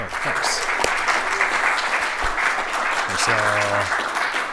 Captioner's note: applause